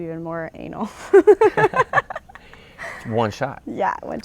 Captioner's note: laughter